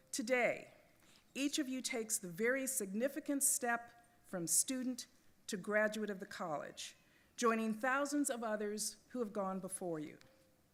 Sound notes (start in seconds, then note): none